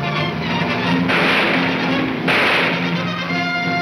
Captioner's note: gunshots banging